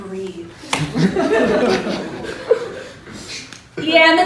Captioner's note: chuckling